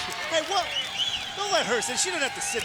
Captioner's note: crowd cheering